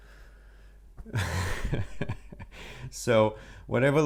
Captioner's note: chuckles